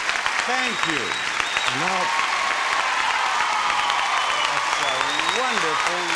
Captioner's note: audience applauding